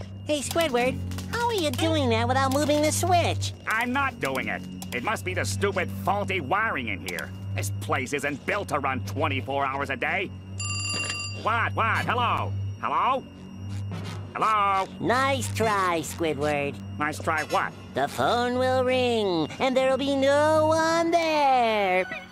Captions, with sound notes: Hey, Squidward, how are you doing that without moving the switch? I'm not doing it. It must be the stupid faulty wiring in here. This place isn't built to run 24 hours a day. [ringing] What, what? Hello? Hello? -Hello? -Nice try, Squidward. Nice try, what? "The phone will ring and there will be no one there!"